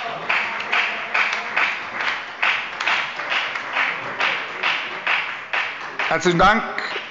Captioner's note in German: Beifall bei der FDP und bei Abgeordneten der SPD